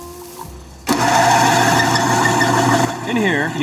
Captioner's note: molino grinds